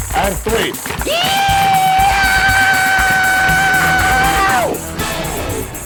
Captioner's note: yelling